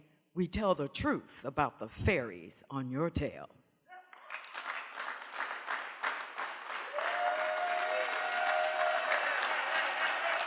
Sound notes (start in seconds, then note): 4.0 cheering